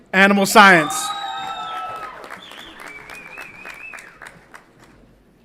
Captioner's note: audience applauds and cheers